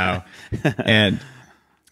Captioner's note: laughs